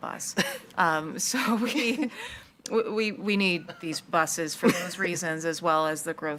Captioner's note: laughs